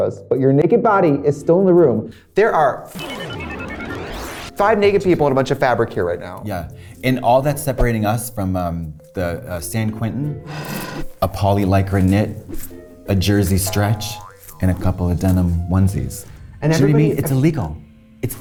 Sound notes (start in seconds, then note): 2.9 numbers beeping